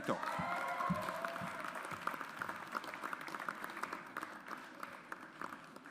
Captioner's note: audience applauds